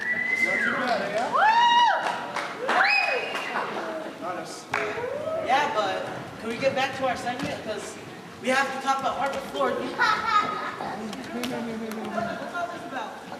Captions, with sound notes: Not too bad, eh, Al? (cheers and applause) Yeah, but... could we get back to our segment 'cause we have to talk about hardwood floors -- (soft laughter) Tim, what's this closet about?